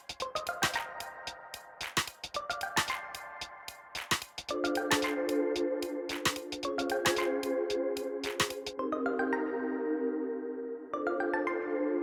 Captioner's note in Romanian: Aplauze